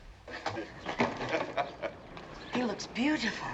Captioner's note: chuckling